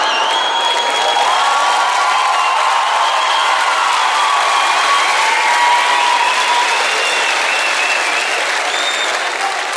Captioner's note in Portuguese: aplausos